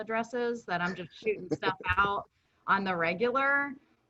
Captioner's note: chuckles